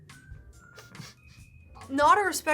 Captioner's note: laughs